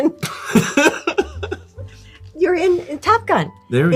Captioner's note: Lewis laughing